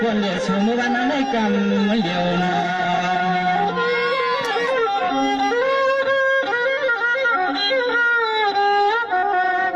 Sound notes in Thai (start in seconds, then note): 2.7 ปรบมือ